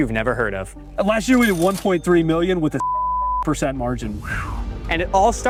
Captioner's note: beep